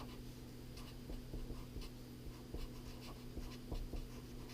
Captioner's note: pen scratching